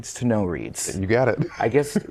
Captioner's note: laughter